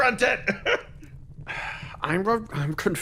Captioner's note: Etete Sigh